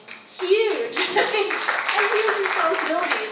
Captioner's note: audience applauds